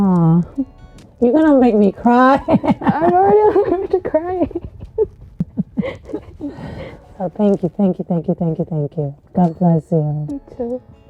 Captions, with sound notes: Aw, you gonna make me cry. (laughing) - I'm already crying. (sobbing) - Oh, thank you, thank you, thank you, thank you, thank you. God bless you. - You too.